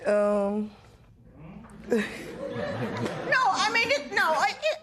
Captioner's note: laughter